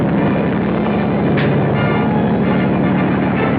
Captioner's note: thumps